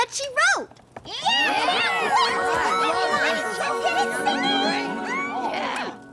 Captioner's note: excited chatter